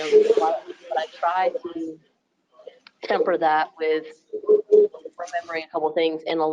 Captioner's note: speaking faintly